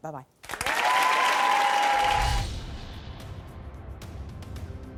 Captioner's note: audience applauding; dramatic music